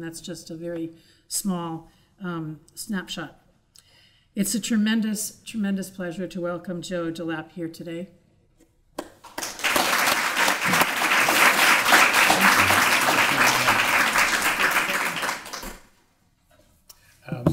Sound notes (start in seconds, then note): 9.2 applause